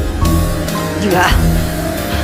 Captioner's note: Tiếng ồn phát sóng trực tiếp